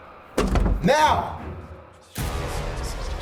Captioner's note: door thudding; dramatic suspenseful music; voices whispering